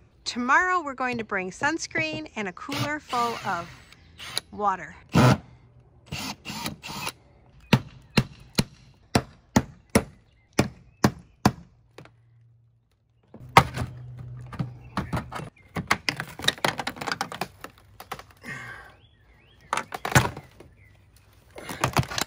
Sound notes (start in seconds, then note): 6.0 drilling; 9.0 hammering; 19.3 birds chirping